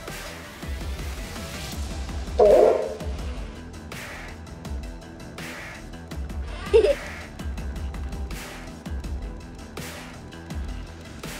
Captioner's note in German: lacht